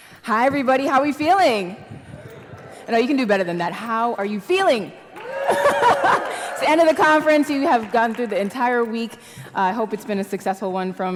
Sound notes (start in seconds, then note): 2.4 audience mumbles; 5.1 audience cheers; 5.4 laugh